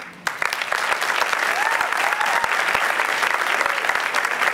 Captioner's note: applause